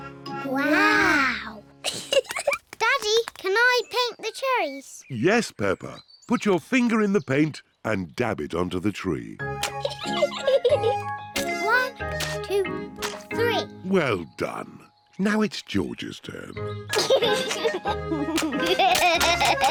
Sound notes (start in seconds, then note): 1.8 both giggle; 9.7 giggles; 16.9 chuckles